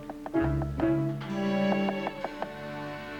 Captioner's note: knock on door